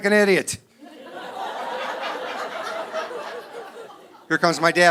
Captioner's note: audience laughing